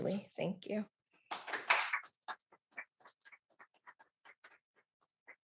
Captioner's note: applause